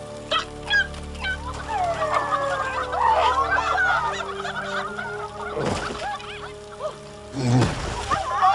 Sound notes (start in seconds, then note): 1.8 coyotes howling; 5.2 groaning